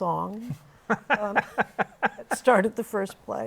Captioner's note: laughter